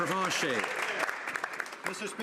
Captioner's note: some Applause